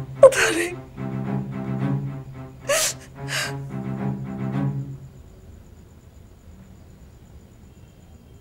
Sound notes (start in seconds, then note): 2.6 cries